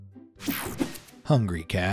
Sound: image whooshing

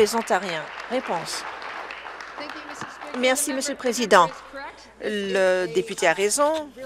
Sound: applause

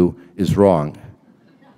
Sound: laughter

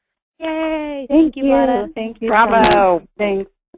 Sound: voiceover

